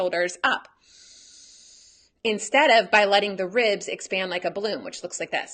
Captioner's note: breathes in